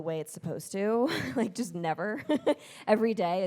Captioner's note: laughs